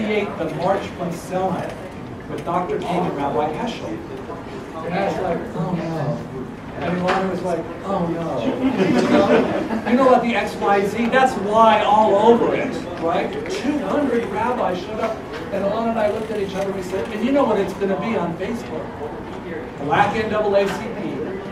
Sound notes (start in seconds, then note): 8.3 laugh